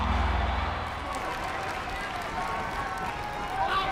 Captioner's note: audience cheering